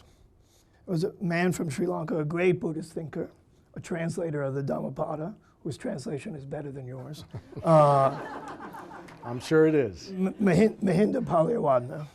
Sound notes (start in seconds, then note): 7.2 audience laughing